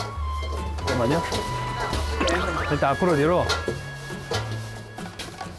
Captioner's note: squeak, squeak